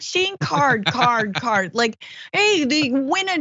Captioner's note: laugh